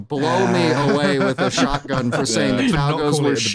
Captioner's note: laughter